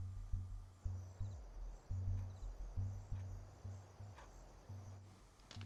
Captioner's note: insects chirping